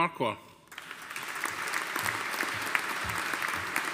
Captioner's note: audience applauding